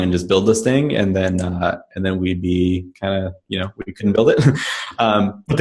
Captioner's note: laughs